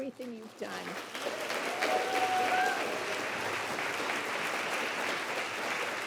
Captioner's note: applause